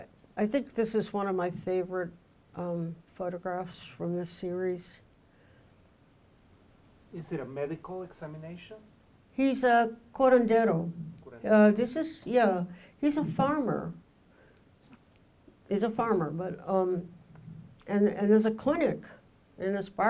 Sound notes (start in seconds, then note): 10.4 speaking in foreign language